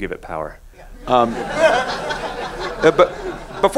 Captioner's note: laughing